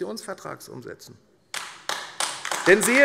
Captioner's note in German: Beifall AfD